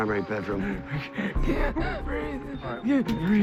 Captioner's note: panting